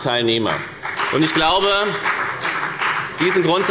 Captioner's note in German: Beifall bei der FDP